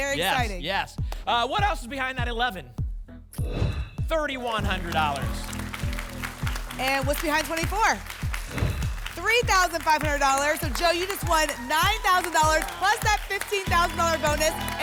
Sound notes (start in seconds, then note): 3.4 whoosh; 5.6 applause and cheering; 8.5 whoosh